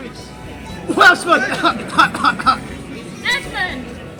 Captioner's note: cough, Cough, Cough